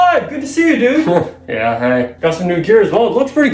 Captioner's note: chuckles